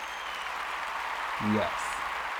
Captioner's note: applause